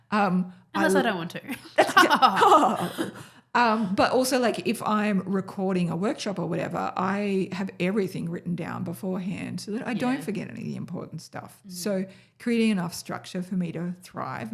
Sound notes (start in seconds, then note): 1.5 laughs